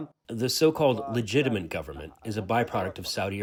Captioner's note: through translator